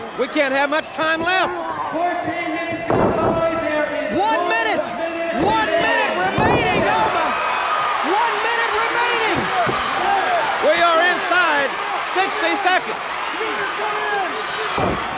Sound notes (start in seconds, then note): 7.4 audience cheers